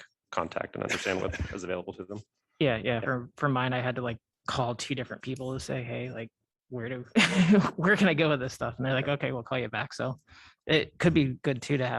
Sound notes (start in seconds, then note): 7.1 laughter